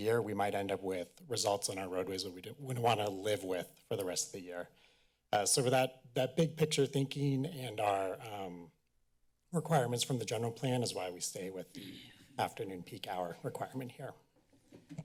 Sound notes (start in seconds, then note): 11.7 clearing throat in background